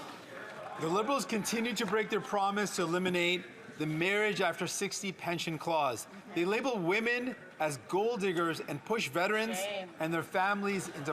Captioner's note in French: applaudissements; voix de l'interprète